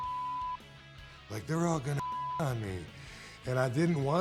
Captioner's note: beep